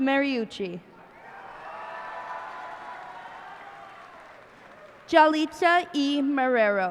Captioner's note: cheers and applause